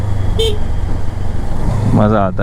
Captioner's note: engine thrum; honks